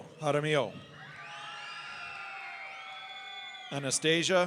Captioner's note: audience cheering